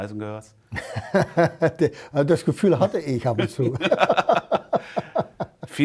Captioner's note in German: lacht